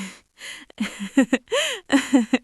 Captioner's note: chuckles